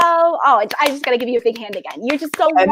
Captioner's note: clapping